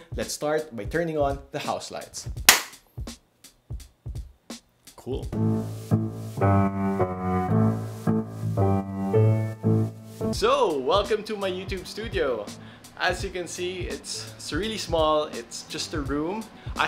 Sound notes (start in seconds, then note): 2.5 claps; 6.0 upbeat music